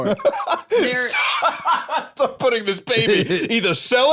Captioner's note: laughing